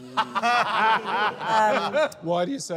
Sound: laughter

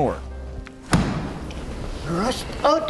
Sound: thud

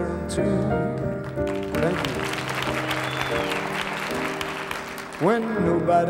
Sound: audience applauds

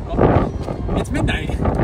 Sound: wind roaring

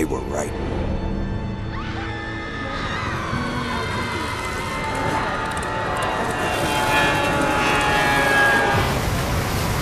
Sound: screams; crashing

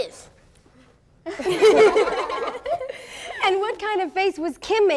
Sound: laughter

